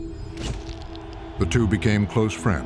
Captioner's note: shutter clicks